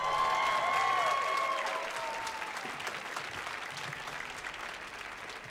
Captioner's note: audience cheering and applauding